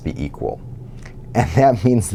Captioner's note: laugh